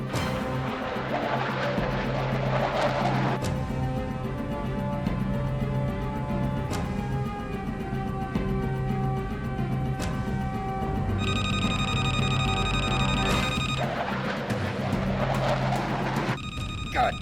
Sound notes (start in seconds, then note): 0.1 intense, dramatic music; 11.2 radio beeping; 13.8 aircraft whooshing